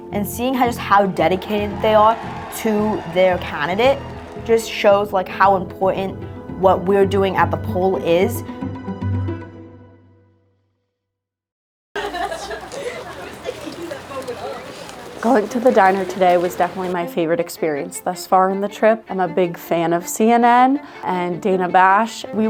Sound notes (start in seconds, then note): 11.9 laughter, background chatter